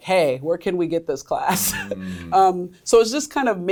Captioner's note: laughs